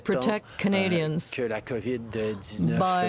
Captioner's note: speaking french